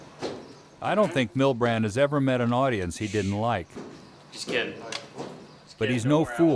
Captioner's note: voiceover